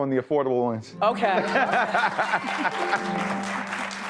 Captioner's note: man laughs; audience applauds